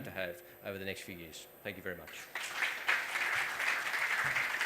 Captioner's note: applause